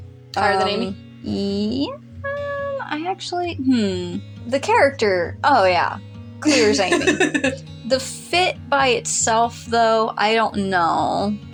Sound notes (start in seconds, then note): 6.4 laugh